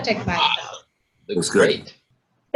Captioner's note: everyone cheers